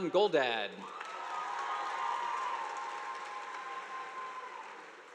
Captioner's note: audience applauding